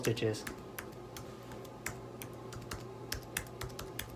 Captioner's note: typing